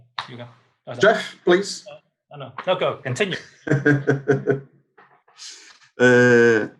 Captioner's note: laughter